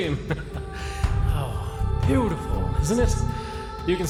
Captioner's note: chuckle